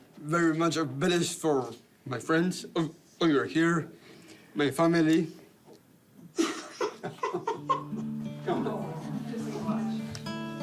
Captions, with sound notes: very much obliged for my friends who are here. My family... (CRIES) - Come on.